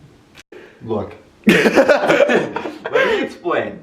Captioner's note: lols